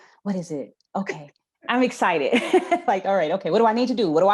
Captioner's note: laughs